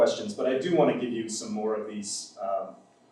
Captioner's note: none